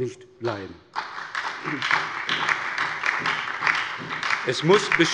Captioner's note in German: Beifall bei der SPD und der LINKEN